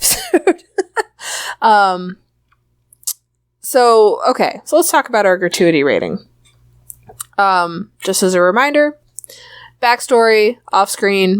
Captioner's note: laughs